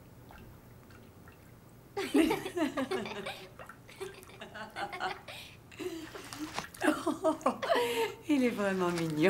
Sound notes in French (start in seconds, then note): 1.6 les deux rient